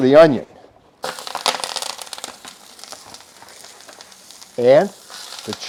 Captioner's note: discada sizzles